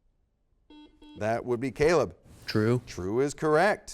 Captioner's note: buzzer beeps